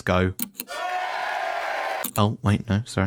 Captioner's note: cheering